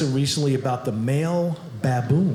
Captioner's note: none